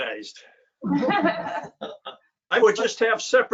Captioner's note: all laughing